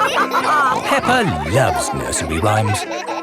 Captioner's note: all laughing